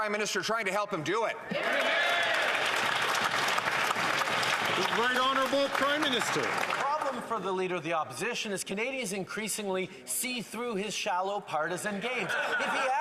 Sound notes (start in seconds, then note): 4.8 some Applause